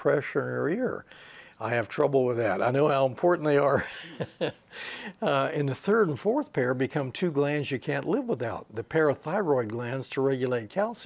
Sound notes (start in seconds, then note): 3.6 he laughs